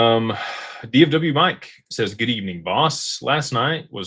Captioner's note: sighs and gasps